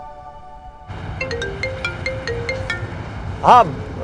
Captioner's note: Phone ringing